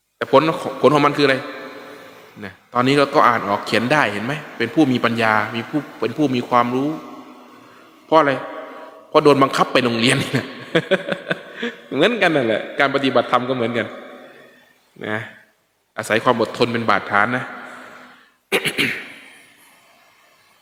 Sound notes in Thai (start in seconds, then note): 10.7 เสียงหัวเราะ